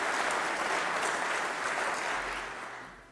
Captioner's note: applause